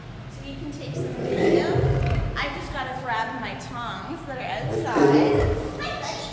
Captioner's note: lion growl